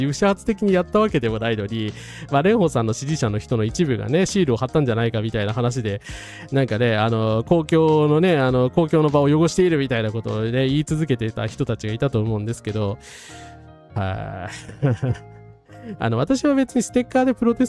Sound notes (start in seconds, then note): 14.5 laughs